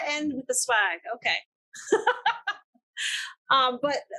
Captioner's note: laughs